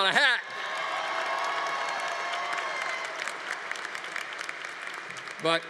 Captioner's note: congregation cheering